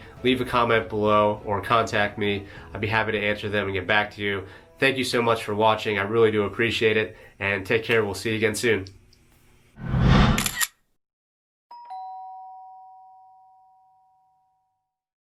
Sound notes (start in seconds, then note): 9.8 air whooshing; 10.0 camera shutter; 11.8 bell dings